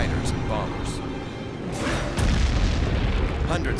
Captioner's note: explosions